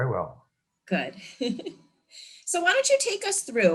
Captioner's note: chuckles